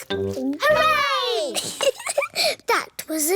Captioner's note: giggles